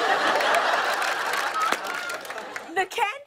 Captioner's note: laughter